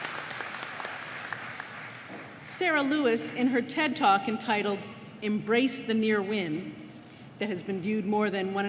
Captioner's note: applause